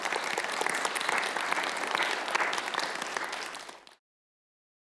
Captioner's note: applause